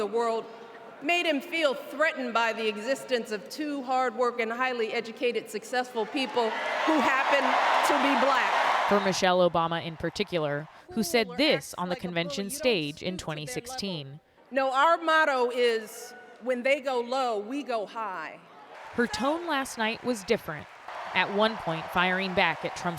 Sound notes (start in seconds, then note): 8.8 applause; 8.8 cheering